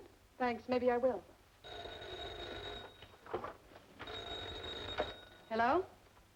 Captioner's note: telephone ringing